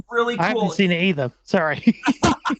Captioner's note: laughing